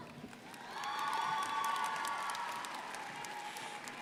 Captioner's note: crowd applauding